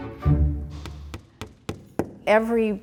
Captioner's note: hammer